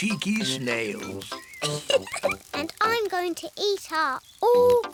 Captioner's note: laughs